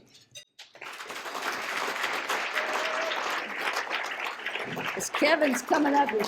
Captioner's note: applause